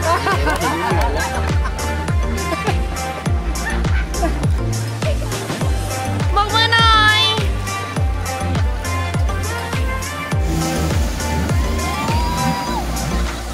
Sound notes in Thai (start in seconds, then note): 1.9 ปรบมือ